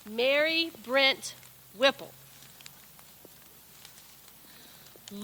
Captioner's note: none